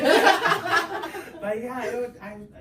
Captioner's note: everyone laughs